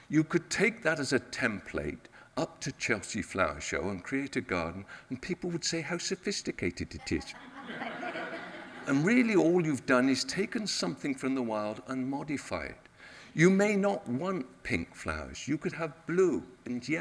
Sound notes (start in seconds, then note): 7.0 audience laughs